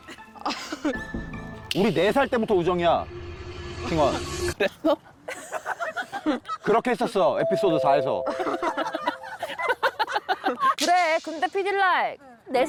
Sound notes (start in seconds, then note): 4.9 sound effect: confused